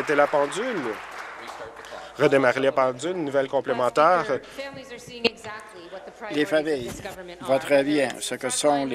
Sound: applause

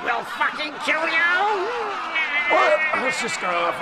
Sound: audience Laughter

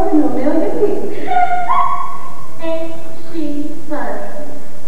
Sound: annoying laugh

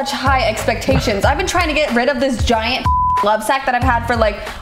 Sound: beep

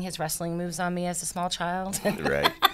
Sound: laughs

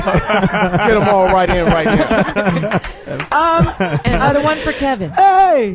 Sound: all laugh

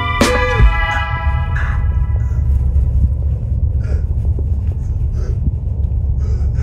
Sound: choking and gasping for air

